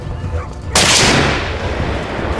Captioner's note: gunshot